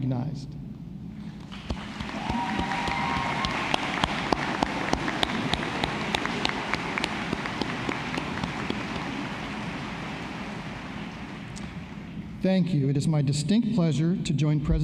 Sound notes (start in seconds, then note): 4.2 applause